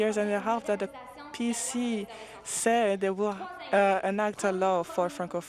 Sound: speaking French

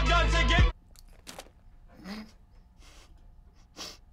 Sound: spitting; snorting; chuckling softly

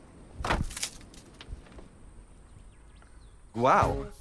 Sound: stomping sound

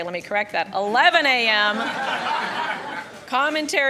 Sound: audience laughing

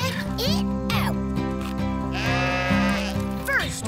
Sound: sheep baaing

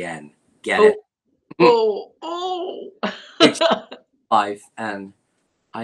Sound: laughter

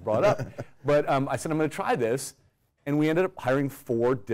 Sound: laugh

